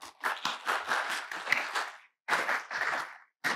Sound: crowd clapping

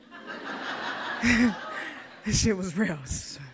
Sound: audience laughs

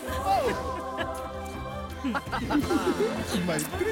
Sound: laughing

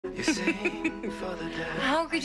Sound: Rebecca laughs

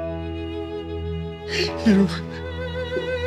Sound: Adam cries

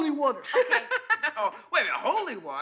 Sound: Larry laughs

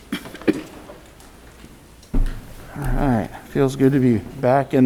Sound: audience coughs

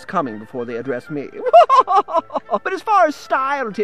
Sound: laughs

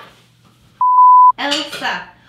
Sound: beep

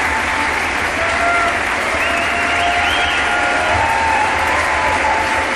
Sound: audience applauding

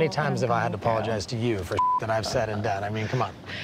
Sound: beep

